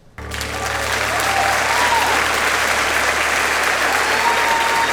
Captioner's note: audience applauds and cheers